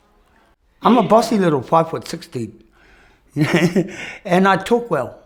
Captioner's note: chuckles